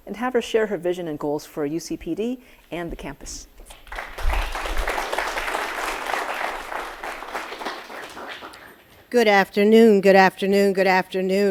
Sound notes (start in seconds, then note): 3.7 audience applauding